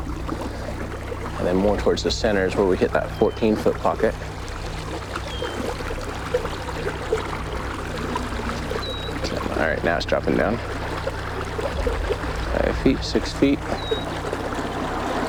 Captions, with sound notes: And then more towards the center is where we hit that 14' pocket. (water sloshing) All right, now it's dropping down. Five feet, six feet.